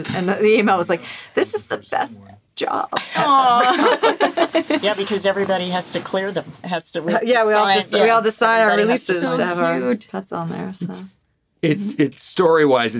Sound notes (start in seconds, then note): 3.0 chuckling